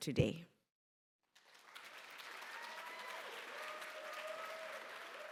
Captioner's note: applause